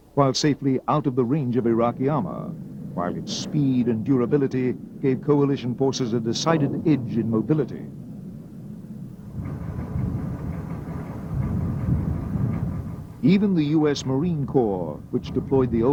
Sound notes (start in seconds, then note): 10.7 tanks rumbling